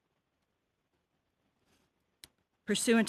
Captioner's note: speaking French